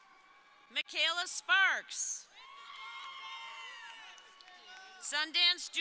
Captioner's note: crowd cheering